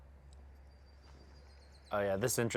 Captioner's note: birds chirping